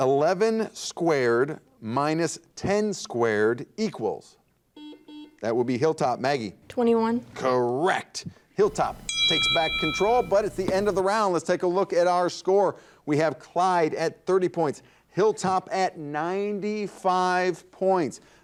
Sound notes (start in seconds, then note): 4.8 buzzer dings; 8.7 bell rings